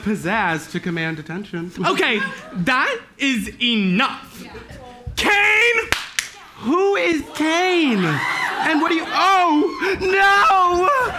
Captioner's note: applause